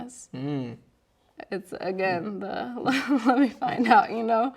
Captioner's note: chuckles